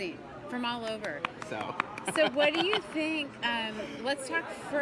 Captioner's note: laughing